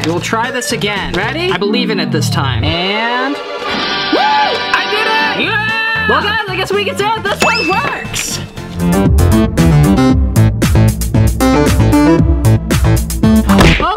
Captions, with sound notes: Okay. We'll try this again. Ready? I believe in it this time. And... Woo! I did it! (yells) Well guys, I guess we can say that this one works! (upbeat music) (upbeat music)